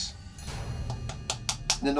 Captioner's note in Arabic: يطرق